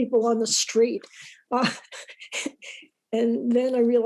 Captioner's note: laughs